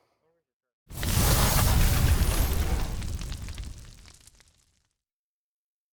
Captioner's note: flames crackling; hard rumbling sound effect